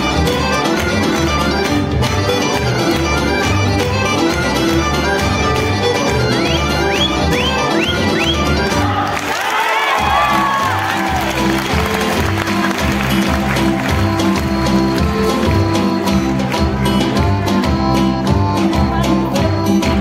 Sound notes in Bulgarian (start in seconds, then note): 15.8 аплодисменти